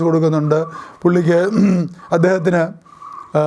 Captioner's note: coughing